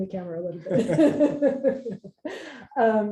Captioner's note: laughter